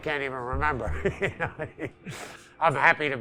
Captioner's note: laughing